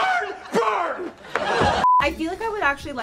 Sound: people laugh

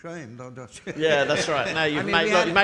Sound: audience laughing

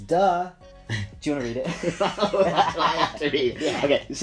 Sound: they laugh

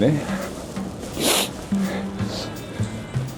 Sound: sniff

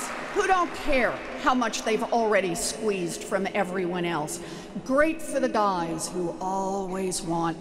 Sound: applause

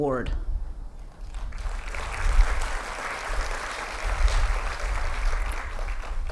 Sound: applause

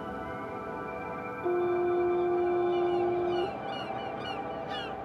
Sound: foghorn

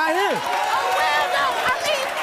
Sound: audience cheers

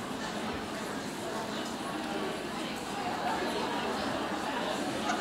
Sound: audience chattering

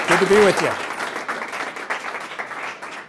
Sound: applause

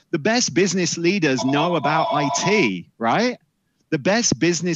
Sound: bell dings

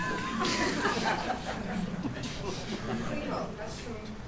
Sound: laughter

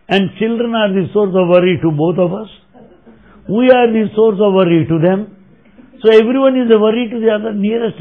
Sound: laughter

